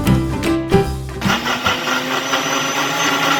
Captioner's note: blender sound